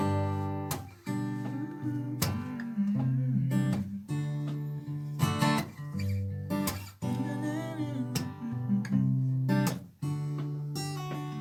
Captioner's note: humming